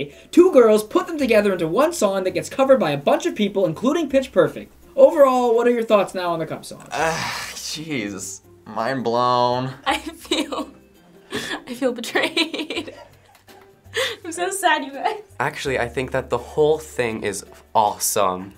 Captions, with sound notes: Two girls put them together into one song that gets covered by a bunch of people, including Pitch Perfect. Overall, what are your thoughts now on The Cup Song? - (sighs) Jeez. Mind blown. - (laughing) I feel... I feel betrayed. I'm so sad, you guys. - Actually, I think that the whole thing is awe-some.